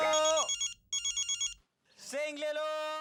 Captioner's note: mobile ringing